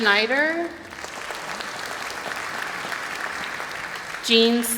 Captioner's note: applause